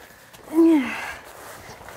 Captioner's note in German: Wohliges Seufzen